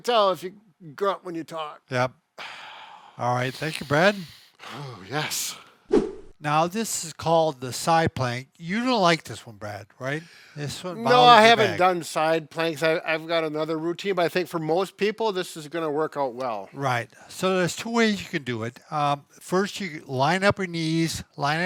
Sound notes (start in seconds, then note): 5.9 air swoosh